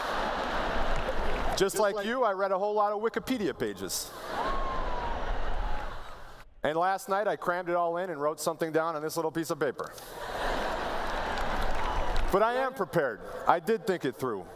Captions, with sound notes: [Laughter] Just like you, I read a whole lot of Wikipedia pages. [Laughter] And last night, I crammed it all in and wrote something down on this little piece of paper. [Laughter] But I am prepared. I did think it through.